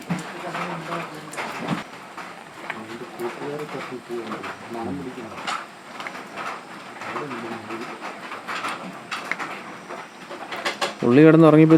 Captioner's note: animal sounds